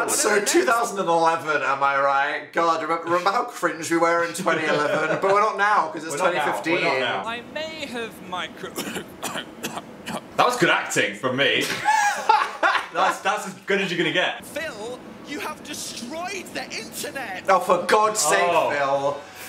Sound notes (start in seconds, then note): 0.0 crowd cheering; 8.7 Phil coughing; 11.6 Dan laughing